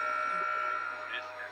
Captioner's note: EAS Tone